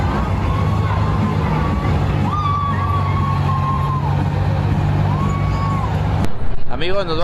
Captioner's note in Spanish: voces